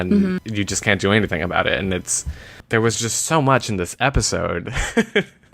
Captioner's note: laughs